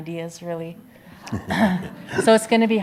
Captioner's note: audience laughs